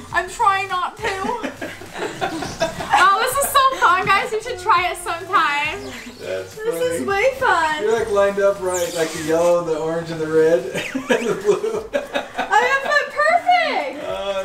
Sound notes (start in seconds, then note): 1.0 laughing; 10.6 laughs